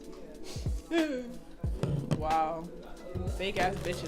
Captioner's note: fake cries